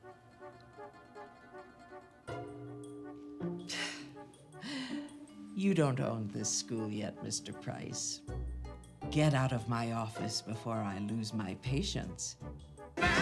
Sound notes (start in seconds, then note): 0.2 soft tense orchestral music; 3.6 scoffs